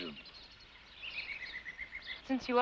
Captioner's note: birds chirping